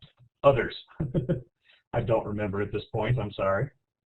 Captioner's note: laughs